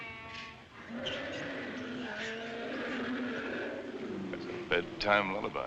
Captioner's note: lion Roaring